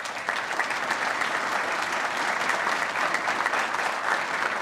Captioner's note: applause